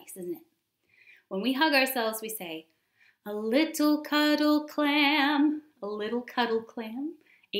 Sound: whispers

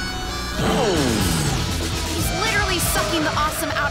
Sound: "powering down" whir

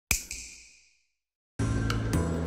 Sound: snap

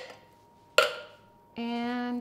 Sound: can clanks

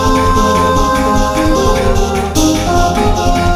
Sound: baaaa baaaaa

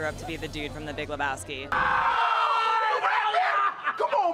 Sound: screaming

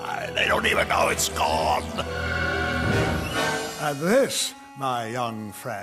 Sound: laughs

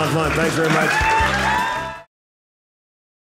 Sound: audience cheering

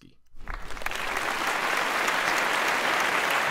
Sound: audience claps

